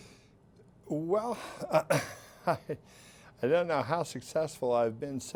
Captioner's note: laughs